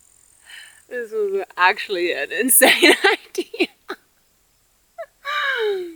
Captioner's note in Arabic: يضحك